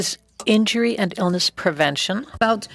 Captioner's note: speaking French